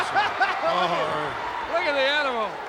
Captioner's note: laughs